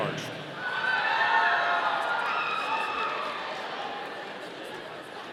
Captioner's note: audience cheering